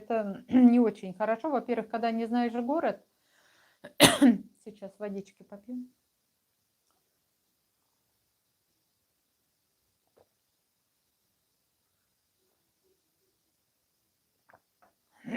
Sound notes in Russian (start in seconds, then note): 1.6 откашливается; 11.7 откашливается